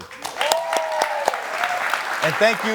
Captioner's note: audience applauding